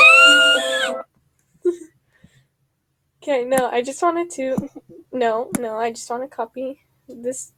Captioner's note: screeches